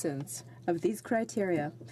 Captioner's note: speaking French